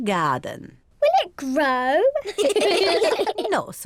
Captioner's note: all laugh